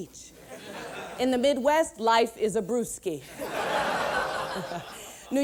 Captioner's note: laughter